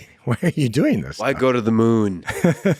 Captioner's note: Lex laughs; laughing; laughs